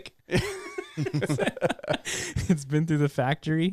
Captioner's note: laughing